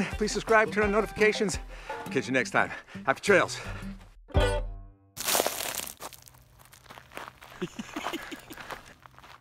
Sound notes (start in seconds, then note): 4.4 guitar chord strumming; 5.2 footsteps crunching; 7.5 laughing